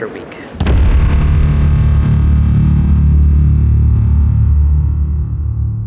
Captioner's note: boom